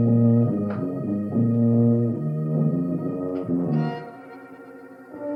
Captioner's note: soft clicks